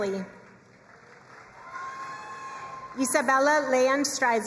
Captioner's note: crowd cheering and applauding